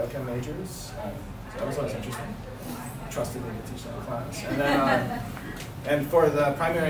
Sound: laughter

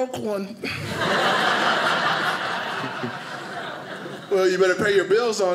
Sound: audience laughing

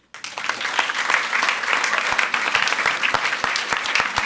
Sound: audience applauds

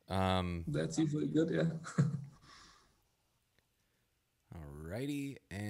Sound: laughs

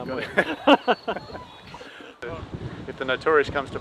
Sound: both laughing

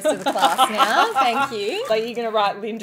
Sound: laughing

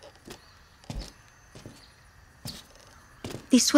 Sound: footsteps

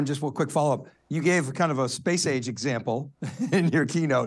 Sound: laughs

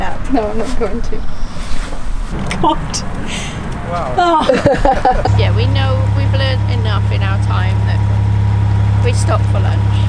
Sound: laugh

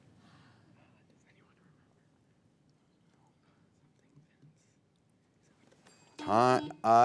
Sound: bell rings; teammates whisper; buzzer beeps

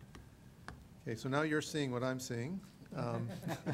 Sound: laughing

